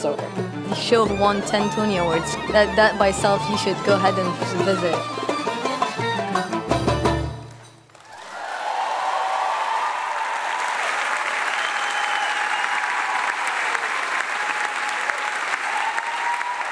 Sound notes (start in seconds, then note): 5.1 energetic music; 7.8 audience applauding; 7.9 audience cheering